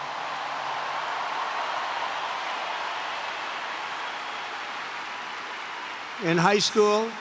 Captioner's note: applause